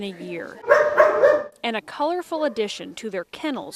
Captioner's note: dog barking